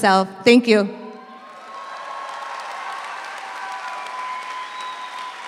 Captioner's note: audience applauds